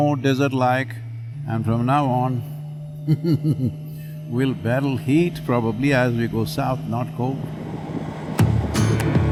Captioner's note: chuckles